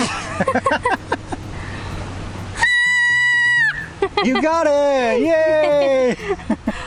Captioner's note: laughs